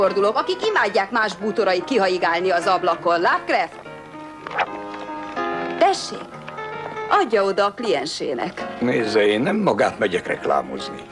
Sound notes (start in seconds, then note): 3.9 swooshing